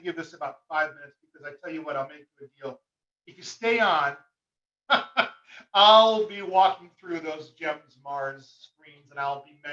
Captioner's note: chuckle